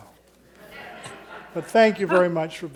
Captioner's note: audience laughing